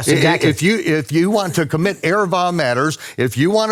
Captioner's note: speaks in foreign language